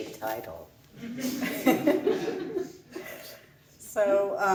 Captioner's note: laughs